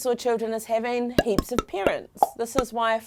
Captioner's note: popping